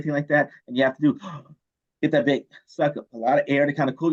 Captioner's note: gasps